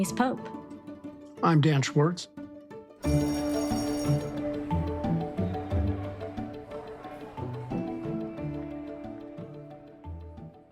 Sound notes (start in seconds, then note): 3.0 bell ringing; 3.8 bright music